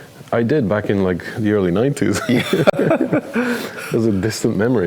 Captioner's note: chuckles